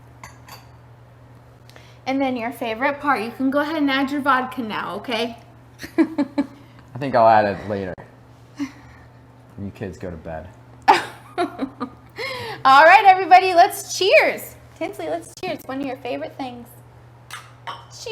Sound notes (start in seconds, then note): 5.8 chuckles; 10.9 laughs